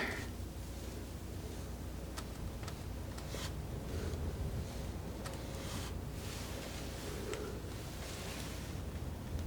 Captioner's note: scratching